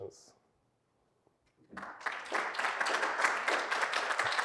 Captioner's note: applause